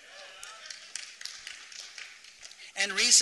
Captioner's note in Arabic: تصفيق